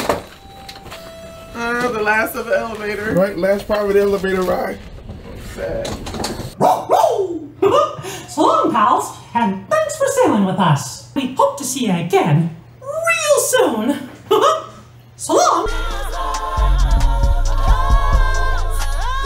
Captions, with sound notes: The last of the elevator. Right, last private elevator ride. (dog barking) - So long, pals. And thanks for sailing with us. We hope to see you again real soon. (laughs) So long.